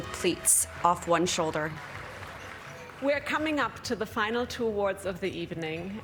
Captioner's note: applause